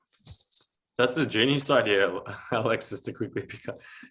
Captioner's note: chuckles